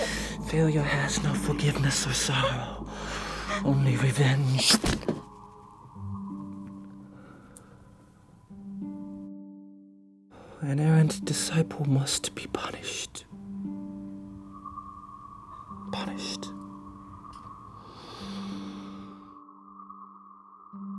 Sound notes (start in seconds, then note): 4.5 bones crack